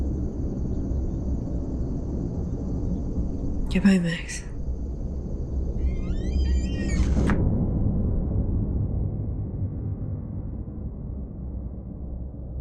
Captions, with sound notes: Goodbye, Max. (door creaking)